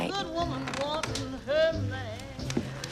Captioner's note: door creaking